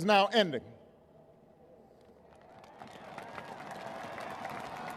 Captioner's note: applause